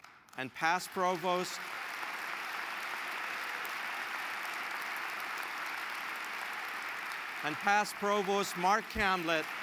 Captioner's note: applause